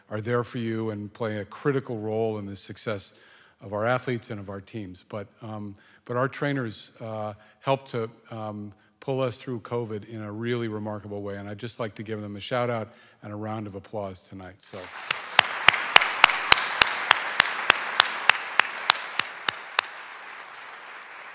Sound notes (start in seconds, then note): 16.5 audience clapping